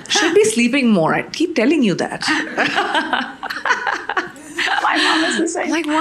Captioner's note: chuckles